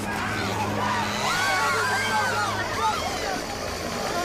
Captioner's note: screams; chainsaw buzzes; screams